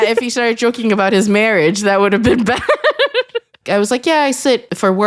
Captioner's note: laughs